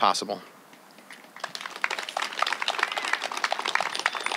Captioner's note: applause